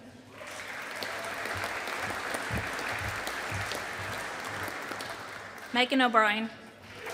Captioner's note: audience applauding